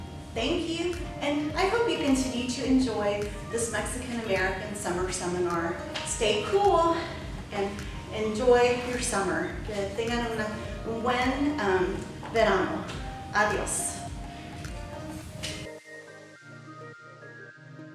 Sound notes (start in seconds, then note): 10.0 speaks in spanish; 14.2 calm music